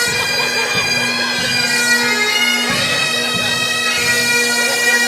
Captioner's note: crowd chattering